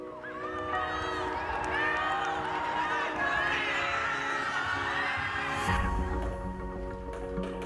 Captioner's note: cheering